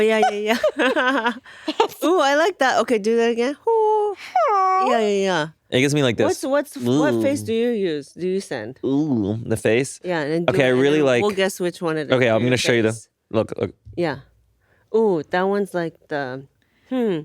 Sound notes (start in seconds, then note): 0.0 laughs; 4.0 sings; 4.2 groans; 7.0 groans